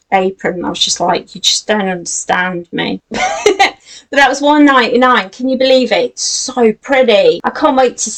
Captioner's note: laughs